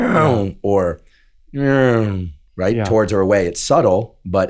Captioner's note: imitates sound approaching; imitates sound receding